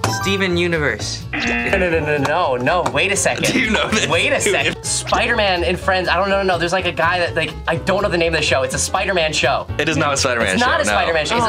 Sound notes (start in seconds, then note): 1.3 buzzer buzzes